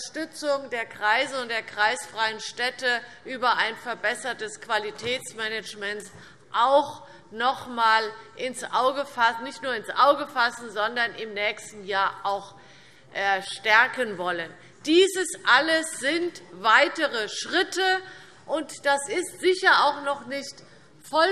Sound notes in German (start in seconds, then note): none